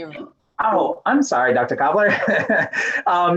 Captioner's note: laughing